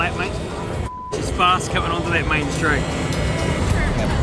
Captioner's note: beeps